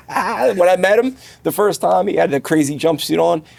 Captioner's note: laughing